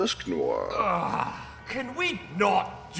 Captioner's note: groan